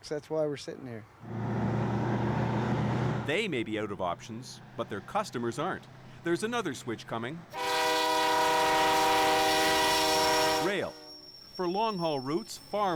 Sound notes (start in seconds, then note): 7.5 train horn blows loudly